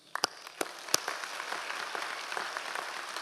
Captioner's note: applauds